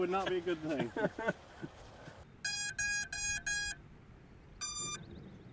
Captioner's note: beep, beep, beep, beep…beeeep